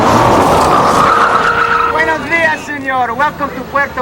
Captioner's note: tires squealing